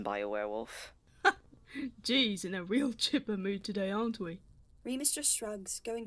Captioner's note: James laughs